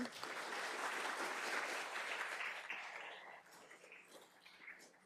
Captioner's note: audience clapping